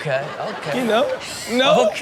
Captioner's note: Chanel laughing